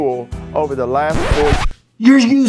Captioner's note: record scratching